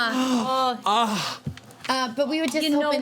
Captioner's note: gasps